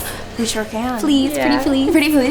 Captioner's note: laughing